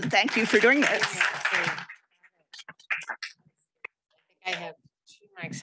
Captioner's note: audience applauding